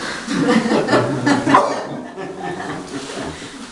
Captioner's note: audience laughter